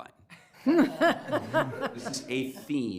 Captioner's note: everyone laughs